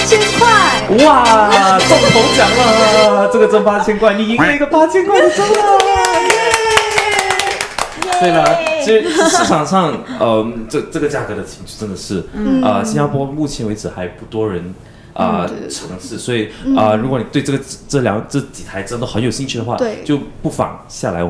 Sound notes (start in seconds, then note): 5.4 applause